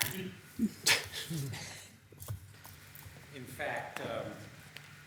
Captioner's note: laughing